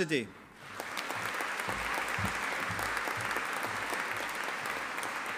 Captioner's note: audience applauding